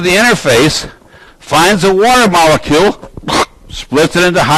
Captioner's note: imitates blasting